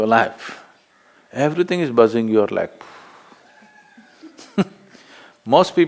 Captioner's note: laughs